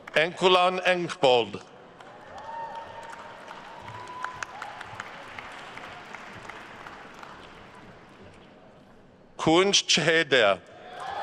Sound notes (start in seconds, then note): 2.0 attendees cheering and applauding